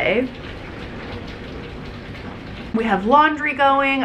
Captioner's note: rain falling